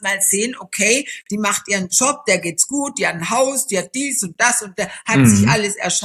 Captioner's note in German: räuspern